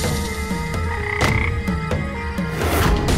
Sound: frog croaks

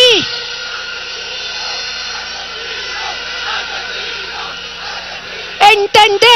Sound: crowds chanting: "murderers! murderers! murderers! murderers!"

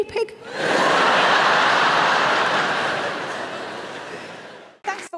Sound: audience laughing

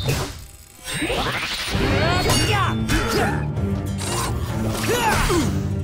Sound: grunting

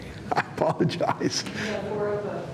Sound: laughing

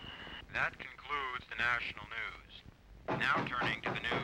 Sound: knocking on door

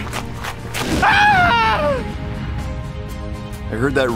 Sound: screaming in pain

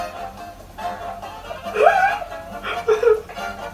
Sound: risus effusiores

